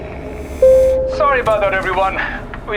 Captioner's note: ding